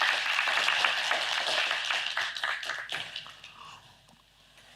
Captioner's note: applause